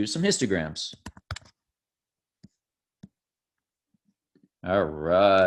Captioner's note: keyboard typing